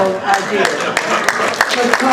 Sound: applause

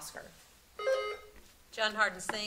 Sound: buzzer sounding

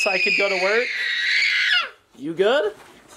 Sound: screaming

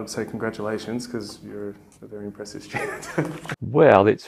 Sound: chuckles

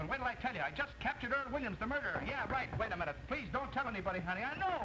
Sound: knocking on door

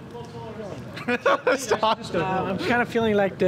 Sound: laughs

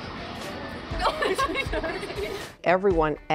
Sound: chuckles

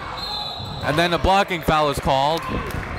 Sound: whistle blows

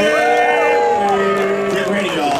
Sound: audience cheering

